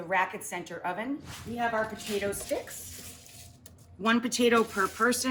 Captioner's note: air whooshes